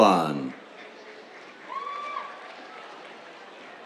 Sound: applause

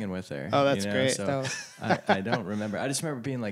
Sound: laughter

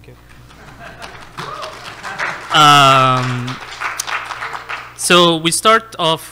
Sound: audience laughs and applauds

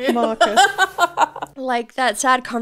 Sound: laughs

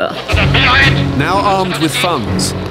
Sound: suspenseful music; man shouting in German

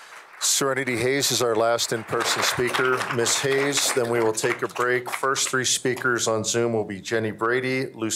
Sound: applause

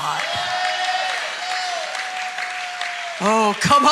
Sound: congregation cheering

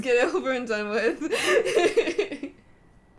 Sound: laughter

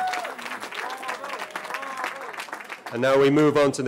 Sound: cheering

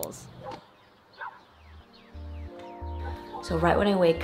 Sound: birds chirping; dog barking

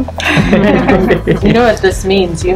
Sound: both laugh

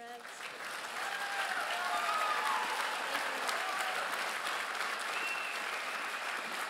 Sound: crowd applauds and cheers

